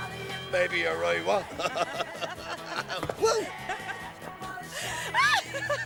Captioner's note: Risas; Chillidos, risas; María riendo